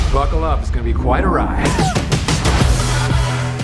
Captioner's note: gasps